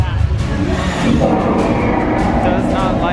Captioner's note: dragon roaring